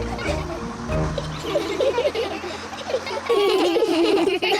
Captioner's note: all giggle